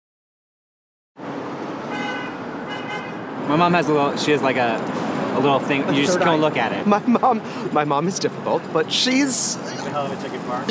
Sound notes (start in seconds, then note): 1.8 car honking